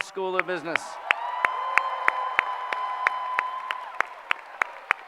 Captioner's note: applause